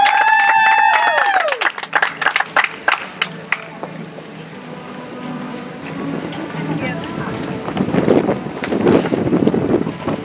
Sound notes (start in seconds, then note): 2.8 audience applauds; 6.7 soft music